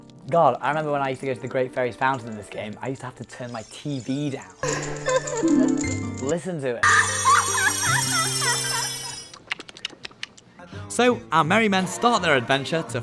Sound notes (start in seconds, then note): 6.8 screams with pleasure; 9.3 licks lips